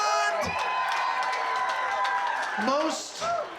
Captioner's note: crowd cheering, clapping